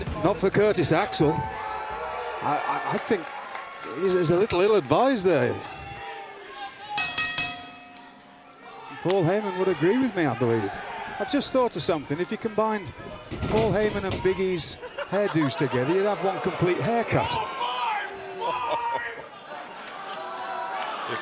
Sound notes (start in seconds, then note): 7.0 bell ringing